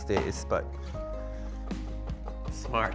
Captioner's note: knife knocking